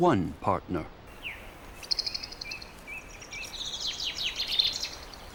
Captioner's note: birds twittering